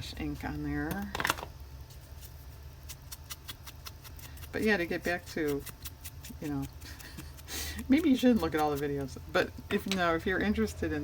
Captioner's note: laughs